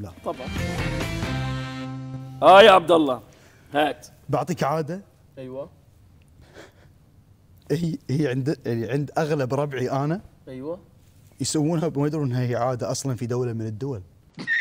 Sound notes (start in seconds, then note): 6.4 giggles